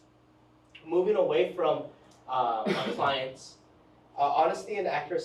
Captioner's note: attendee coughs